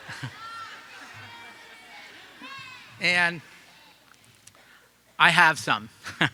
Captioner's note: audience laughing